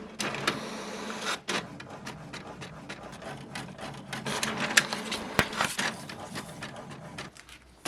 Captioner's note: printer noises